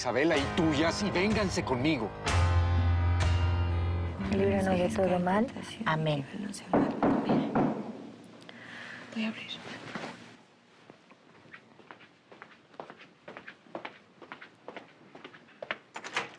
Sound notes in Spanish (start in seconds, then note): 5.5 Rezos al unísono; 6.7 Golpes en la puerta